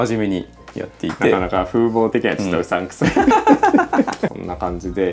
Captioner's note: laughs